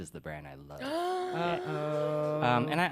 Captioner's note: uh. gasps